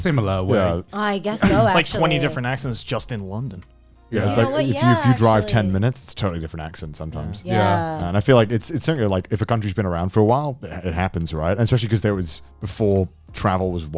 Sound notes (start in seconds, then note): 7.3 group agreeing